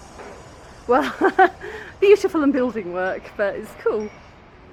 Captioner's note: laughing